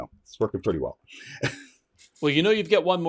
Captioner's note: laughs